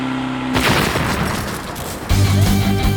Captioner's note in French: explosion